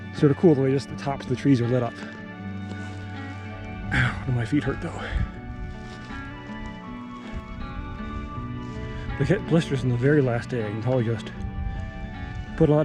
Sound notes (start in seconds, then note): 3.9 sighs; 6.1 dry grass crunching